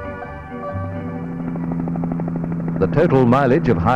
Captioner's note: sound of helicopter